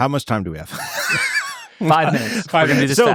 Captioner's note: laughing